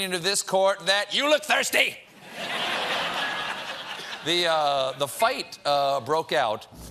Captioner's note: laughter